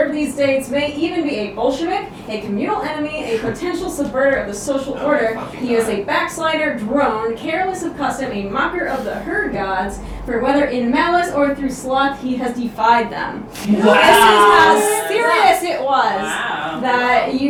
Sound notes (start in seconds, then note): 13.6 audience Wows!